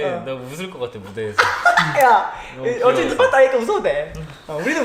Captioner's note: laughs